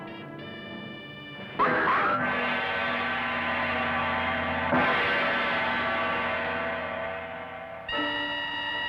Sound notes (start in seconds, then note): 2.1 scream